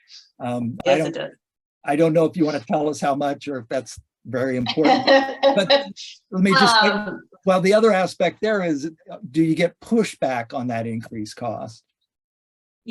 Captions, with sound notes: Yes, it does. I don't know if you wanna tell us how much or if that's very important. (light laughter) Well, the other aspect there is, do you get pushback on that increased cost?